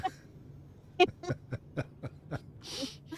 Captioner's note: laughter